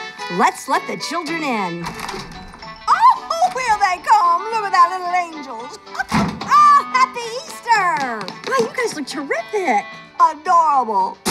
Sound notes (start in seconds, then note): 5.8 laughs